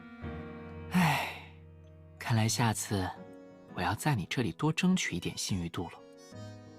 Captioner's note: sigh